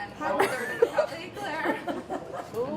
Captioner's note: laughs